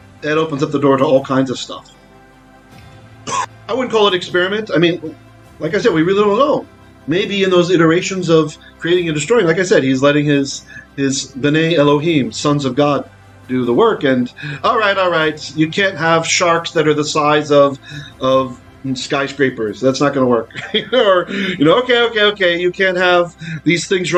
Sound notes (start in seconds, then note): 11.3 Hebrew